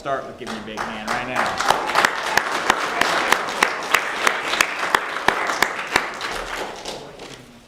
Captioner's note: applause